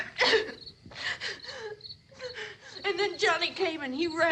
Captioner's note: sobbing breathlessly